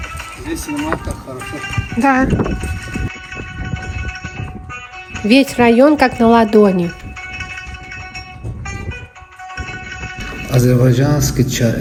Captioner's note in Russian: колокольчик